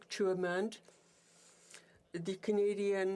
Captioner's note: speaking French